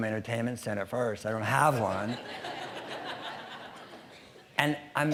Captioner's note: audience laughing